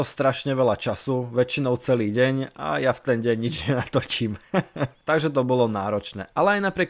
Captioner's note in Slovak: smiech